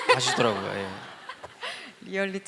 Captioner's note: laugh